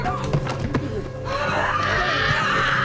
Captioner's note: screams